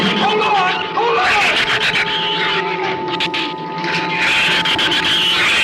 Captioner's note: shrews screech